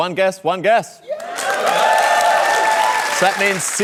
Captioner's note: cheering and applause